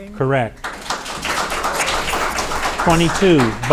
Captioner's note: audience applauding